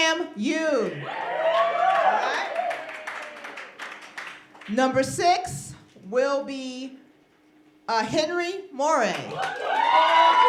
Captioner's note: applause; applause